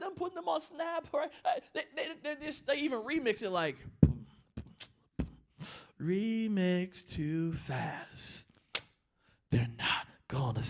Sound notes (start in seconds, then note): 3.9 beat boxing